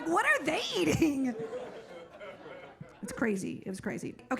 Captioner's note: audience laughing